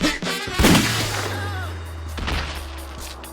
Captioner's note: gunshot; body thud